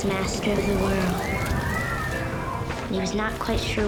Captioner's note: screaming